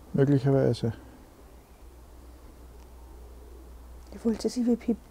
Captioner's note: silence in the background